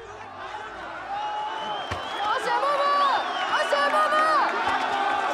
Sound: crowd chanting

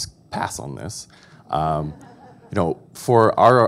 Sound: audience laughing

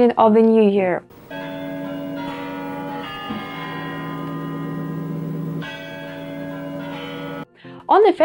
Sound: chiming clock

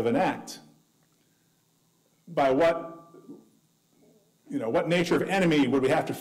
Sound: none

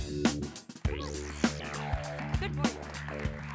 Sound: applause

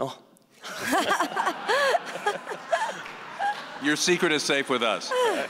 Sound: audience laughing

